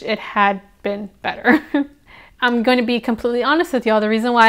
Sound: laughs

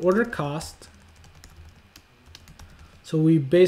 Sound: keyboard tapping

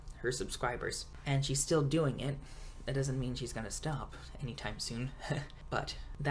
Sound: laughs

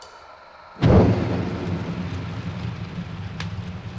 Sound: thundering boom

